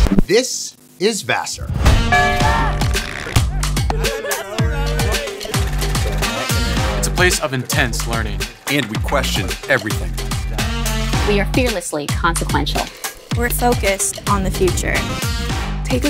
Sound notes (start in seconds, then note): 1.8 upbeat music; 2.1 bell rings; 3.3 students laughing; 5.5 upbeat music